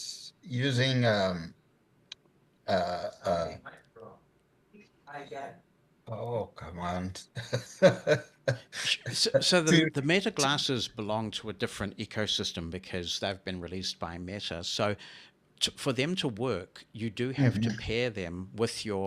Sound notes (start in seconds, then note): 1.3 computerized voice in background